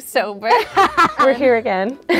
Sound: laughs

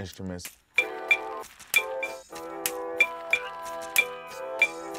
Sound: glass clinks

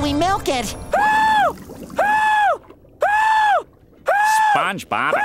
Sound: screaming intermittently; screaming

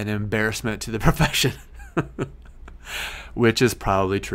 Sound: laughs

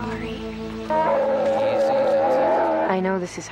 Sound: bear screams

